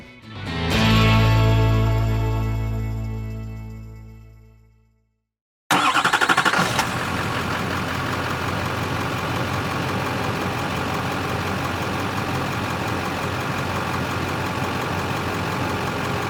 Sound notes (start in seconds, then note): 0.0 bright Music; 5.8 car Engine Revving